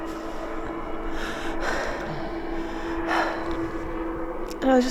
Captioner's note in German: schwer atmend